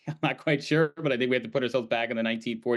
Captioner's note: laughs